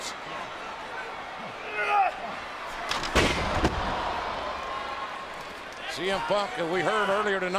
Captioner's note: applause